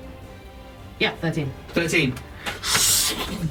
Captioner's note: swooshing sound